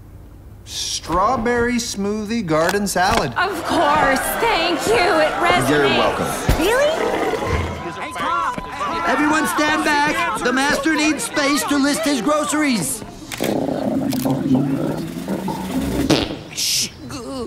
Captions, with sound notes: Strawberry smoothie. Garden salad. -Of course! Thank you! It resonates! -You're welcome. Really? [people chattering excitedly] Everyone stand back! The master needs space to list his groceries. [stomach groaning] -[breaks wind] -Shh!